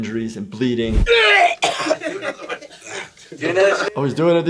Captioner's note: man throwing up